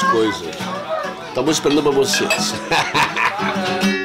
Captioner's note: laughs